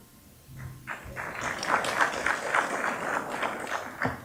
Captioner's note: applause